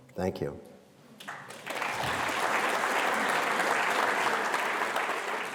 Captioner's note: audience clapping